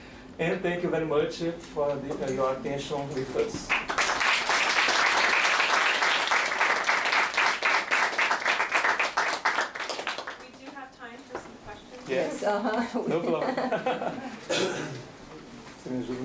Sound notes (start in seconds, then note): 3.6 applause